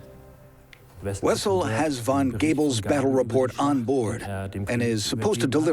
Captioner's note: in German